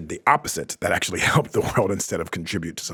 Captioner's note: laughs